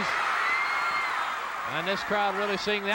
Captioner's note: audience cheering